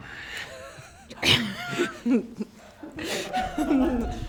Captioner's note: laughing